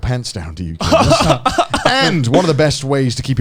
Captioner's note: Joey laughing